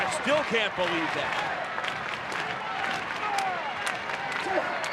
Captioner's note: audience clapping